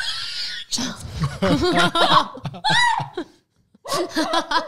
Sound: laughing together

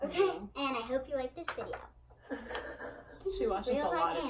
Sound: laughs

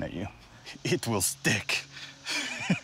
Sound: laughs

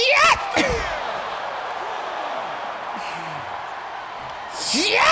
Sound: applause

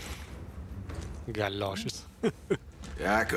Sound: laughs

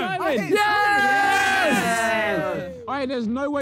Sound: players cheer

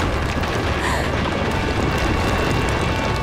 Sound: gasping

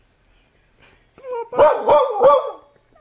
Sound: barking

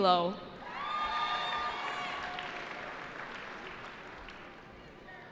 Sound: cheering

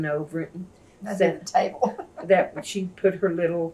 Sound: laughs

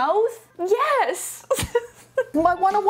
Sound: laughing

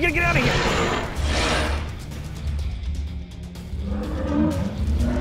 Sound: dinosaur roaring

